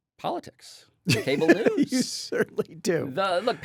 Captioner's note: laughs